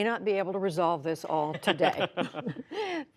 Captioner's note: laughter